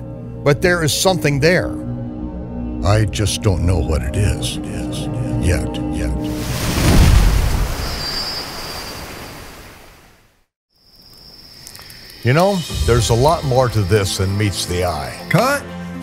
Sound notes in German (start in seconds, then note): 6.2 Wellenrauschen...DIE CHRONOLOGISCHEN EVANGELIEN: OFFENBARUNG